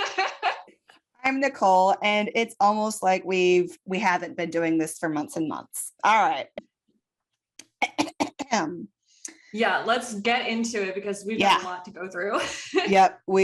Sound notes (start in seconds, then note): 7.1 clears throat sarcastically